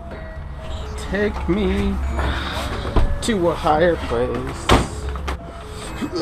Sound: grunts

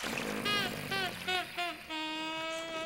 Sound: growls

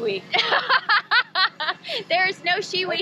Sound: laughs

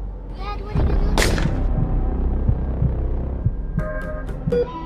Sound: weapon firing; machine beeping

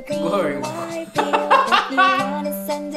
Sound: laughs

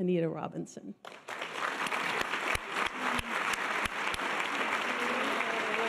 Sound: audience applause

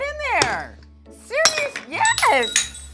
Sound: hammer hits mug

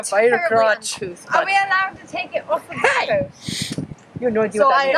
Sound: someone shushes

